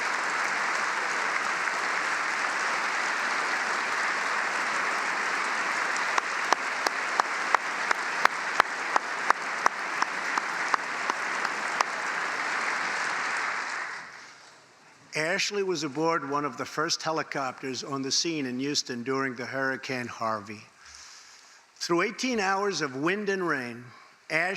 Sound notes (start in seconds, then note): 0.0 applause